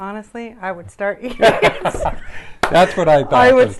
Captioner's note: laughter; clap